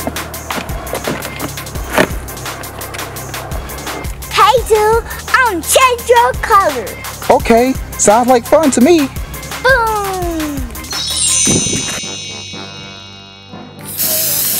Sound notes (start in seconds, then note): 0.1 upbeat music; 10.9 twinkling; 13.4 playful music; 13.9 can spraying